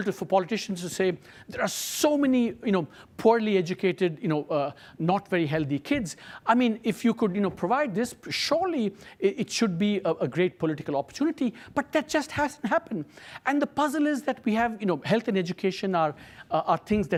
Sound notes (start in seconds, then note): none